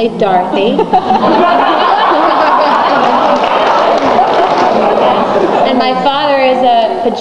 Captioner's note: audience laughs